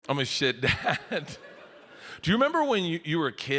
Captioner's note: audience giggles